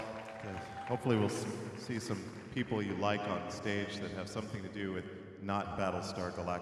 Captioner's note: applause